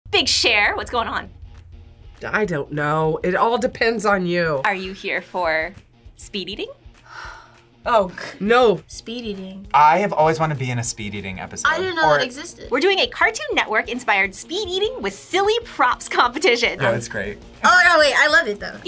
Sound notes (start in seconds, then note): 7.0 sighs